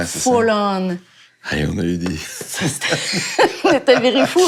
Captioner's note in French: rires